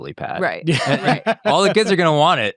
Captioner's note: laughing